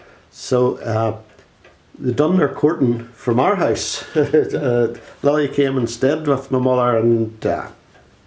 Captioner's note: laughs